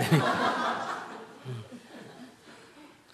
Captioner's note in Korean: 청중 웃음